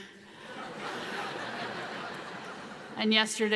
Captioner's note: audience laughs